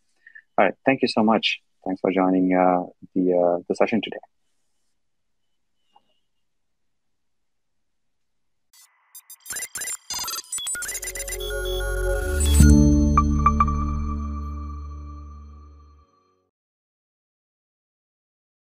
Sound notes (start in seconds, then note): 9.1 robot chirping